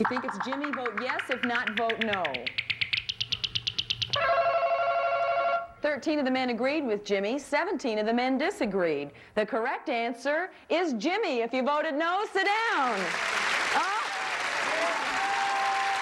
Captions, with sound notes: -If you think it's Jimmy, vote yes, if not, vote no. (ringing) 13 of the men agreed with Jimmy, 17 of the men disagreed. The correct answer is Jimmy. If you voted no, sit down.